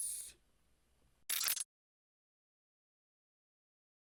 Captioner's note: audio glitches